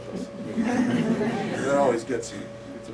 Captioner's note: laughter